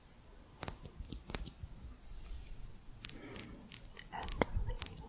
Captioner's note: sporatic tapping